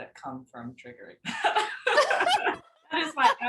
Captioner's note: both chuckles